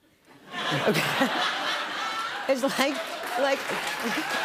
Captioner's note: laughter; cheers and applause